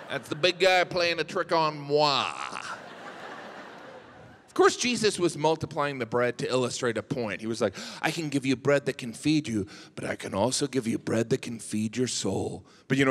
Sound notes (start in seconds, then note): 2.2 audience laughs